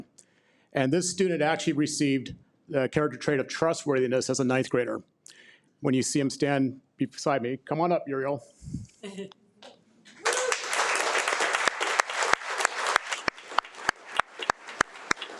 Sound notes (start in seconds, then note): 10.1 audience applauding